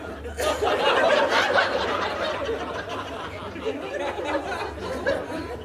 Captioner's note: audience laughing